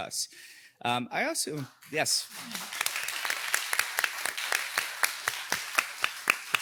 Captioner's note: audience applauding